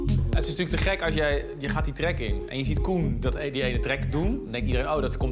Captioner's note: speaking in foreign language